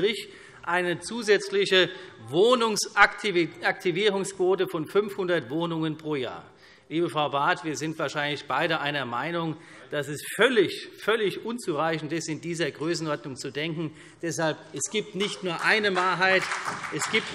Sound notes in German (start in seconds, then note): 13.9 Beifall